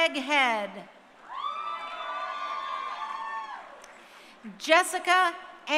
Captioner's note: crowd cheering